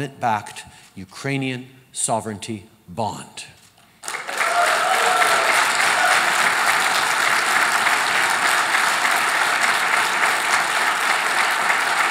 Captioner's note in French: Applaudissements